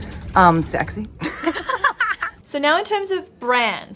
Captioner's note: laughing